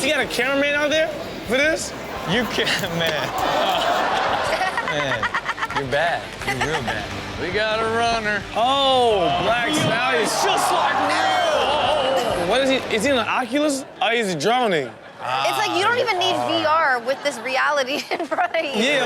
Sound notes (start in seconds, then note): 3.2 laughs; 3.4 Chanel laughs